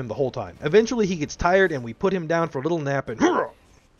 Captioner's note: pain sound